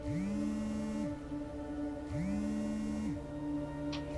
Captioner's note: phone vibration continues